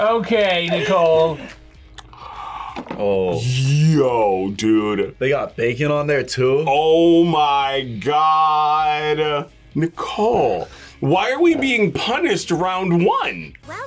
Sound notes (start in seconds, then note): 0.4 laughs; 1.9 gasps